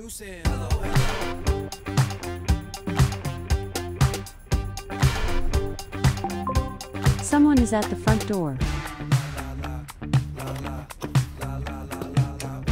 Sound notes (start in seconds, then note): 6.2 Alexa dings